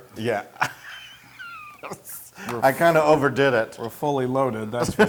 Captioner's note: laugh